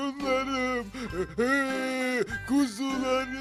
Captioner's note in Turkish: Ağlama sesi